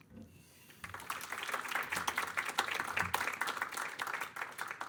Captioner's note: audience clapping